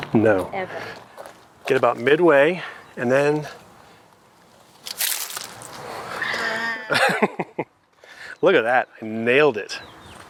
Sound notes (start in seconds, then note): 4.7 plastic rustling; 6.1 laughs